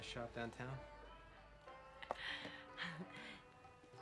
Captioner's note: laughs quietly